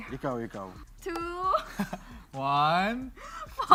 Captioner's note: chuckles